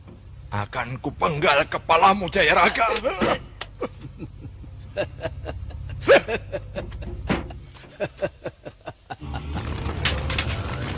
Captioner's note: laughing